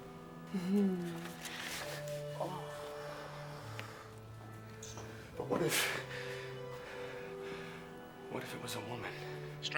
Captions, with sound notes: (Sarah giggles giddily) (Sarah moans) But what if... What if it was a woman?